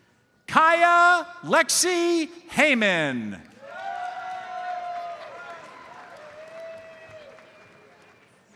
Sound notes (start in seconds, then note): 3.5 audience cheers and applauds